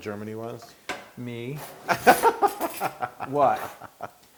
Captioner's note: laugh